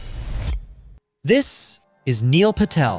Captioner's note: bell chimes